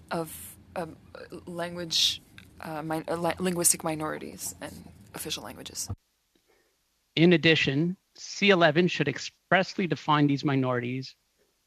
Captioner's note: speaking French